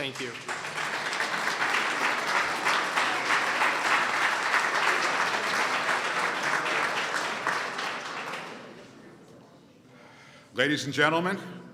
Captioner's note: applause